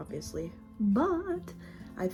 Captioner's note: sing song voice